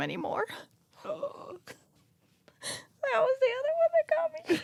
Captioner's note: sobs